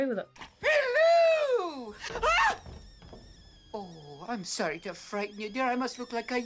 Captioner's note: screams